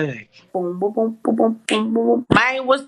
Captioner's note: beatboxing